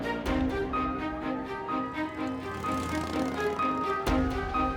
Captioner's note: siren wailing